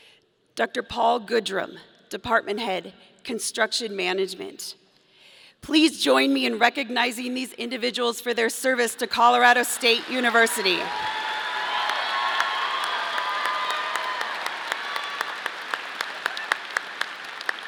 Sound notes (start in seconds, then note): 11.9 audience applauding; 11.9 audience cheering